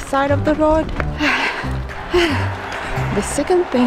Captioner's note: gasp